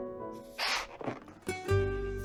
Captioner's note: blows